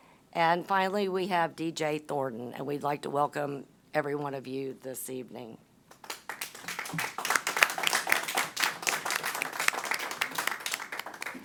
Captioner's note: applause